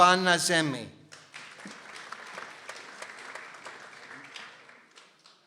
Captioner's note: people applauding